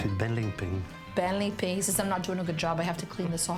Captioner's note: speaks in foreign language